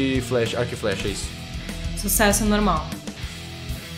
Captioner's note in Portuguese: none